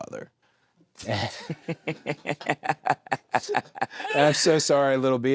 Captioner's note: both laughing